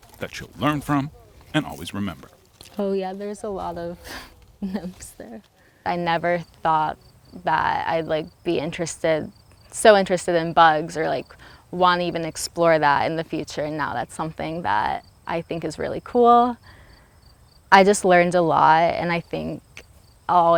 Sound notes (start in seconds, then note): 4.5 laughs